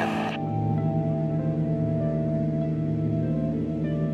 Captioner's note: propellor whirring